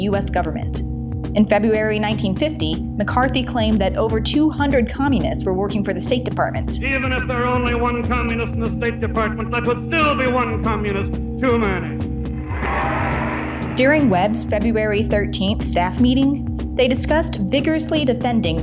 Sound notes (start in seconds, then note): 12.5 cheers and applause